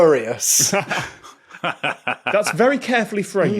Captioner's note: others laughing